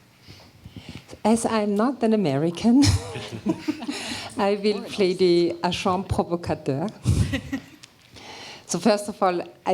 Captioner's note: non-english speech